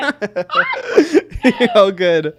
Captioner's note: both laughing